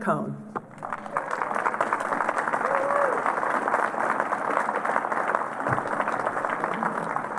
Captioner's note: applause